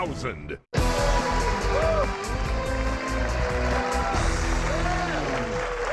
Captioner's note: cheers and applause